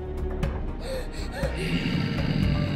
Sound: gasps

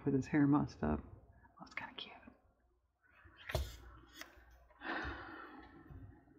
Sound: whispers

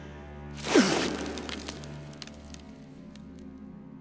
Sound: Gandalf grunts

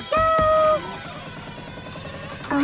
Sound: door creaking

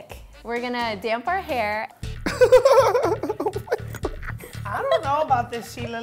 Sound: laughs

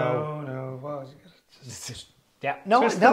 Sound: whispers

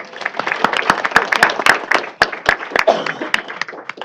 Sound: applause

